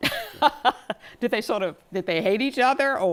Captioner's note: laughter